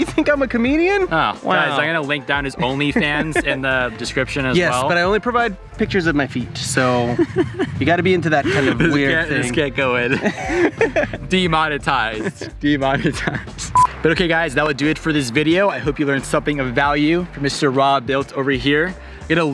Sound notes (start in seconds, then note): 6.8 laughing; 13.7 maker beep